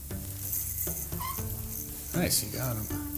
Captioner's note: rod whirring